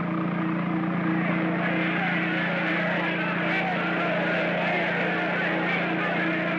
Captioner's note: aircraft hums; crowd clamors; aircraft hums; crowd clamors